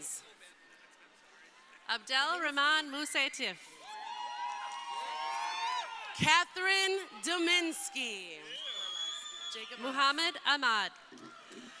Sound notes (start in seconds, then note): 3.7 crowd cheering